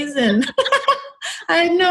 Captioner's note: both laughing